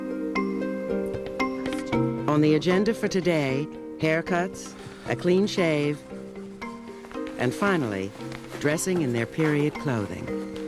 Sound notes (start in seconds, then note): none